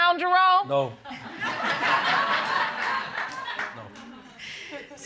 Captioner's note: audience laughing